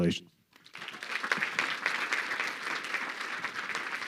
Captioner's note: crowd clapping